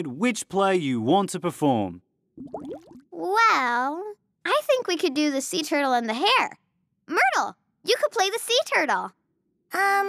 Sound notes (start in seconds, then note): none